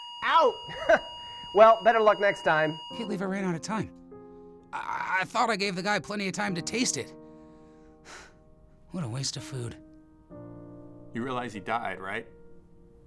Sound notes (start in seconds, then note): 0.6 chuckling; 8.0 sighing